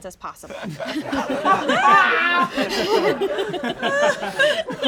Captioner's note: all laugh